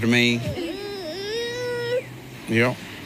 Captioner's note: baby crying